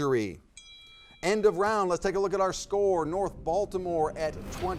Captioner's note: bell dings